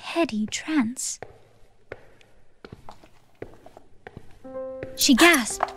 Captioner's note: footsteps